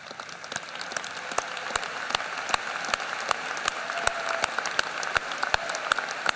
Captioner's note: applause